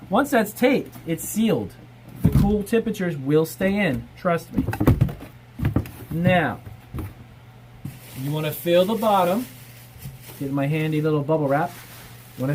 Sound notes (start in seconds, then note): 7.9 crinkling paper